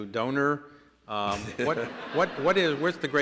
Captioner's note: laughter